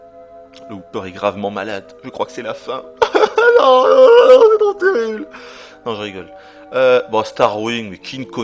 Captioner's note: cries